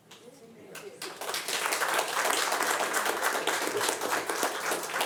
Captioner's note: audience applauding